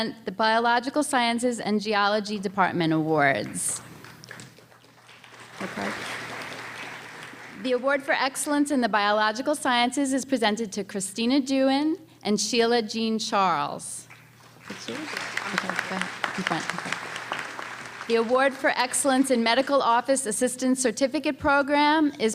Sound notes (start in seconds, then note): 14.4 applause